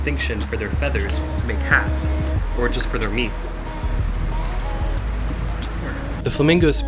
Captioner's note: sad flamingo noise